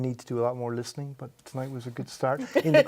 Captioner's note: laughs